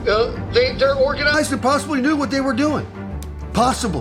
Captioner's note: radio